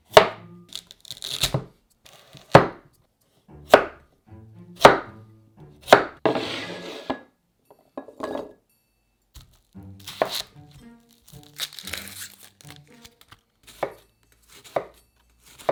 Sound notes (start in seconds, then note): 0.6 knife cutting; 11.0 onion paper rustling